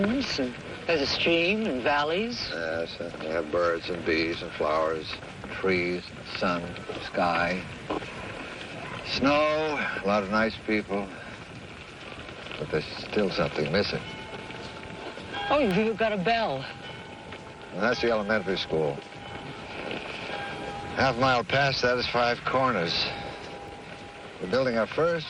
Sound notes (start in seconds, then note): 16.7 bell rings